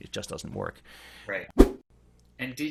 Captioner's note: whoosh